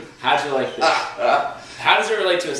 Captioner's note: laughs